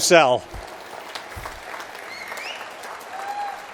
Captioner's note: applause